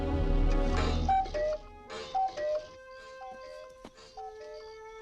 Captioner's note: foreboding music quickens; clock cuckoos